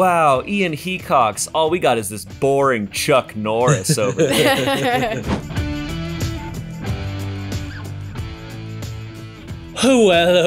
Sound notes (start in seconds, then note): 3.7 all laugh; 5.6 upbeat music